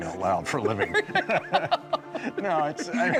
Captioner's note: both laughing